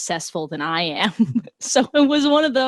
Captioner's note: chuckles